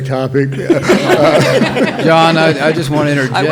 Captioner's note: all laughing